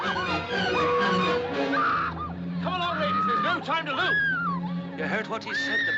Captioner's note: Grito continua